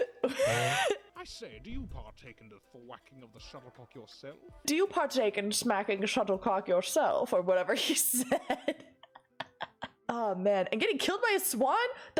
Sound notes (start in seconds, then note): 0.0 sharp inhale from laughing; 0.0 laughs again; 4.7 imitating posh voice; 8.1 devolves into giggles